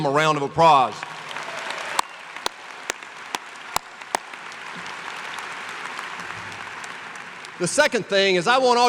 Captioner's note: applause